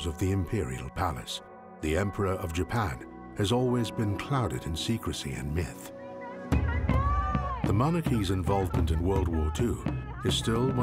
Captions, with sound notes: of the Imperial Palace. The Emperor of Japan has always been clouded in secrecy and myth. (woman shouting in foreign language) The monarchy's involvement in World War II is still one